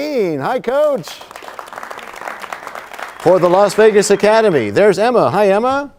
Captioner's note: applause